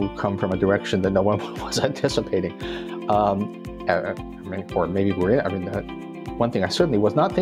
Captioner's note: chuckle